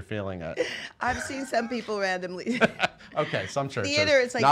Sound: laughing

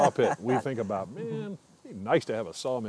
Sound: laughing

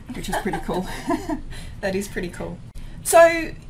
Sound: laughs

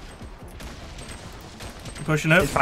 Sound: guns firing

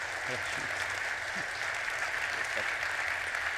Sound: audience clapping

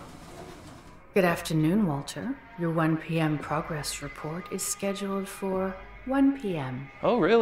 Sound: computer voice

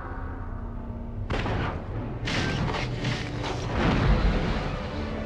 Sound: digitized landslide sounds

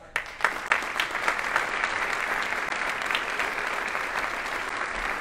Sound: audience applauding

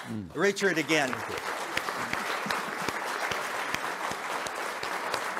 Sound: audience applauding

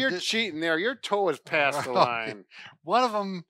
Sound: chuckles

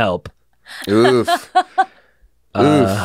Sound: laughs

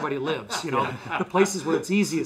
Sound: laughs

